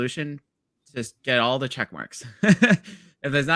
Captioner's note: laughs